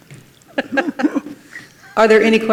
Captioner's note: laugh